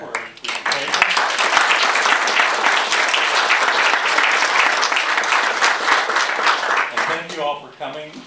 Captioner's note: applause